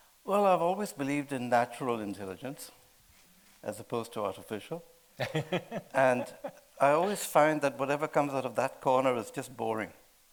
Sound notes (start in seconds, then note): 5.2 laughing